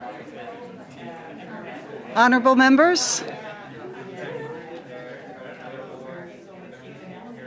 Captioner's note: conversation din